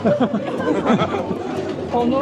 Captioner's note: laughter